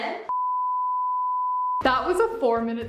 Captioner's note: test beeping